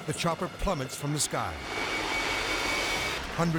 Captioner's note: helicopter blades whirring